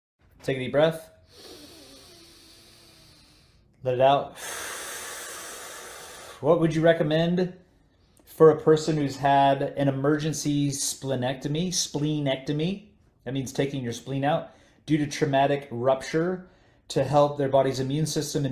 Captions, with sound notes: - Take a deep breath. (inhales deeply) Let it out. (exhales sharply) What would you recommend for a person who's had an emergency splenectomy? Spleen-ectomy, it means it's taking your spleen out due to traumatic rupture to help their body's immune system